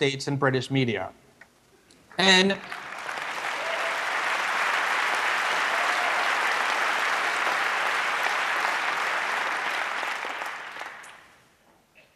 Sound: applause

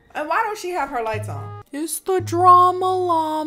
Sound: car hoots

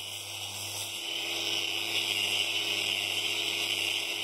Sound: whirring

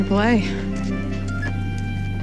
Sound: phone Beeps

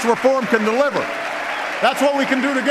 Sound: applause

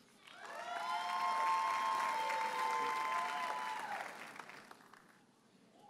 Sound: audience cheers and applauds

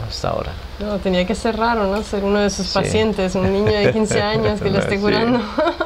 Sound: laughts

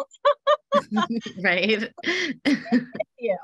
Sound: both laugh; laughs

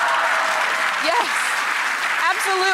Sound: audience applause

